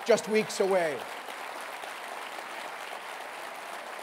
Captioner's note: cheering and applause